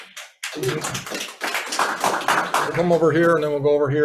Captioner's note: audience applauds